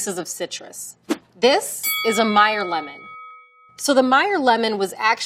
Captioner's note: bell dings